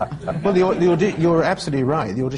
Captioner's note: laughter